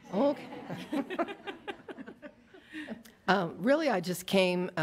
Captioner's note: audience laughs